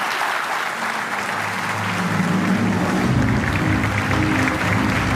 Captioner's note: applause